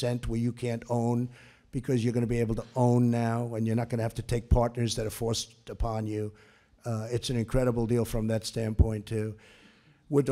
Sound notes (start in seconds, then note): none